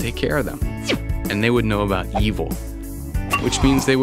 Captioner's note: painful grunt